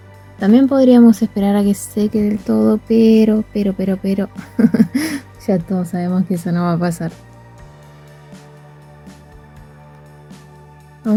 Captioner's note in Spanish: risas